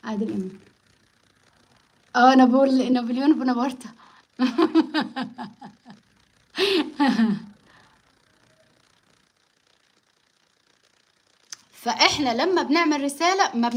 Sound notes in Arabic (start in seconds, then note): 6.5 ضحك